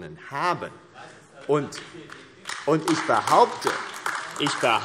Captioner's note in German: Beifall AfD